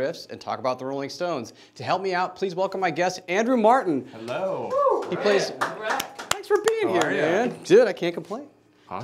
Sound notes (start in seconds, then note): 4.7 claps